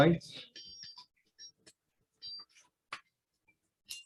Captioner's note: phone ringing